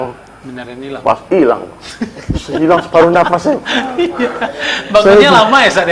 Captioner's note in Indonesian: tertawa